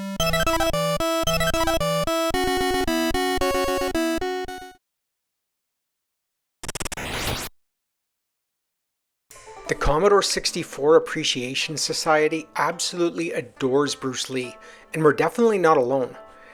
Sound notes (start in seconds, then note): 6.6 C64 martial arts sounds